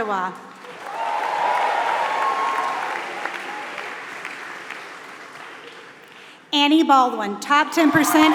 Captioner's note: applause